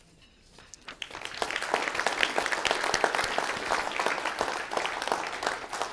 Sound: applause

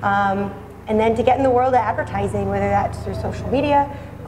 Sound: none

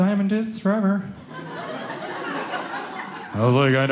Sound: audience laughing

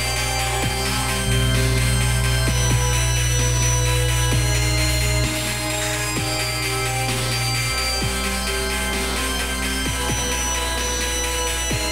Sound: hair clippers buzzing

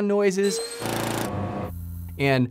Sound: machinery whirring

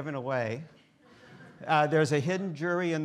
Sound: students laughing

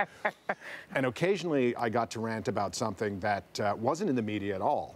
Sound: laughter

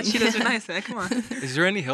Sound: chuckles

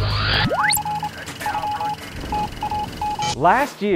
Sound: sound Effects

